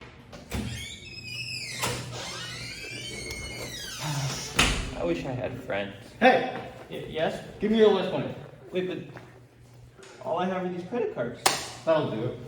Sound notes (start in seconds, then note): 0.4 door opens loudly; 4.0 sighs; 11.4 slap